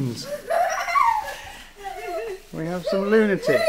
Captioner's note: laughing